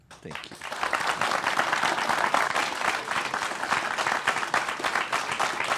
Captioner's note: applause